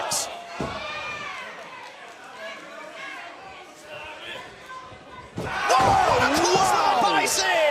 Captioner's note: crowd chatter